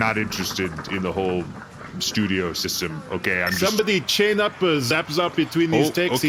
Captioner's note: into a walkie; beep, voice over walkie says "Copy on chains!"